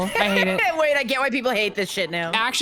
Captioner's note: laughs